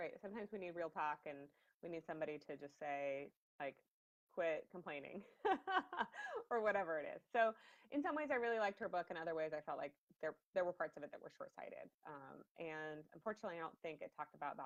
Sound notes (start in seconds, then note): 5.4 laughs